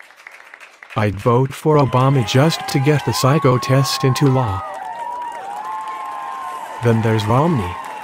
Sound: crowd applauds

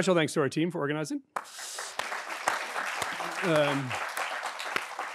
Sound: audience clapping

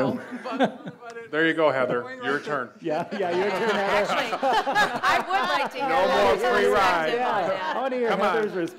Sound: laughs

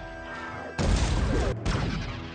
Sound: explosion

